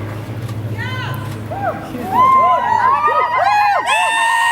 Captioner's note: cheering